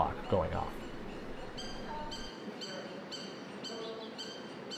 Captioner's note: bird chirping